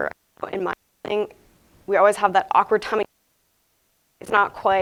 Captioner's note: audio briefly cuts out